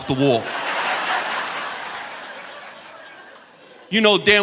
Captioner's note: audience laughing